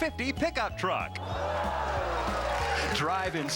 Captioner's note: audience fakes swoon